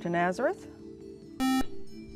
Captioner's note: buzzer